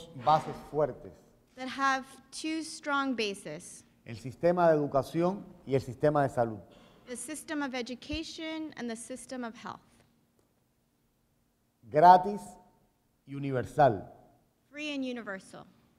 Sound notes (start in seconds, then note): 4.6 speaking in Spanish